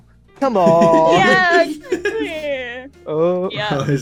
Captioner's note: laughter